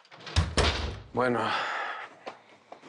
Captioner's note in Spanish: Ruido al cerrar